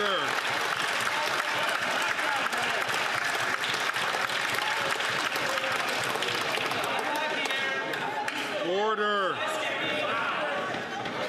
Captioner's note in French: applaudissements